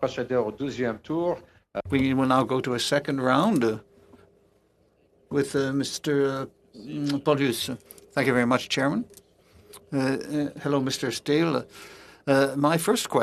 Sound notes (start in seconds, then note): 2.6 speaking French